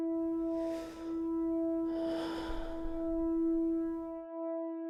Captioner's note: breathing deeply